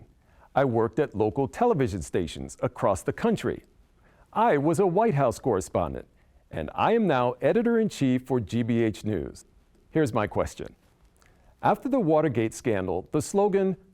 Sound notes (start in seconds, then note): none